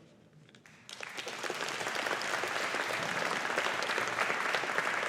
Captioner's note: audience applauding